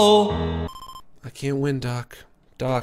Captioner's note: normal voice